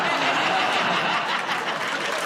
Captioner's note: laughter